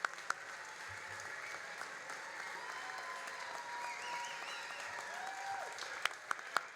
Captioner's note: all applauding and cheering continues